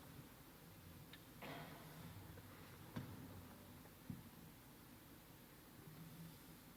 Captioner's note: softly exhales